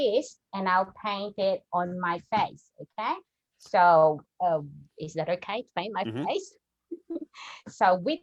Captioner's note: chuckles